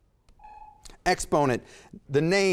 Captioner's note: timer sounds